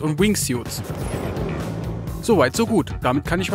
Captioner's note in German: Triebwerksgeräusche